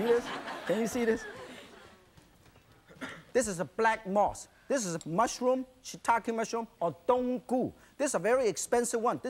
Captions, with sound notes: See this. Can you see this? This is a black moss. This is a mushroom shiitake mushroom (speaks in foreign language) This is a very expensive one,